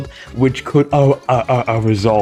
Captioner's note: stutter Moment